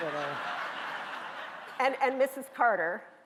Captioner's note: laughing